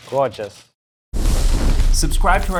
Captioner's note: flames crackling